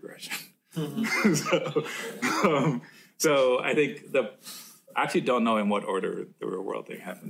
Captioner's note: laughs